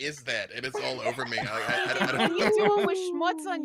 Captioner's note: laughs